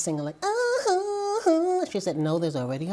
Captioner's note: vocalizes